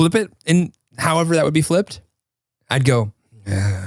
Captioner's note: sighs